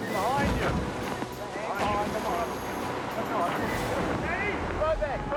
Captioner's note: rescuers yelling